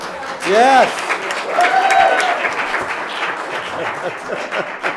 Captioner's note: applauding